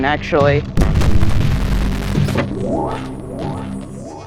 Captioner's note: glitch